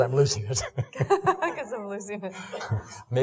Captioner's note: laughing